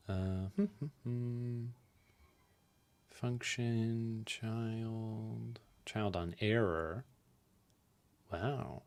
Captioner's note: hums